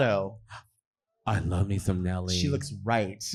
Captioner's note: gasps